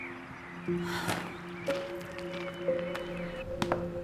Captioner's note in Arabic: تنهدات; موسيقى متأملة